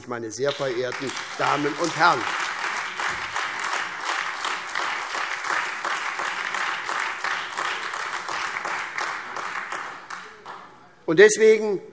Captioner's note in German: Beifall SPD und AfD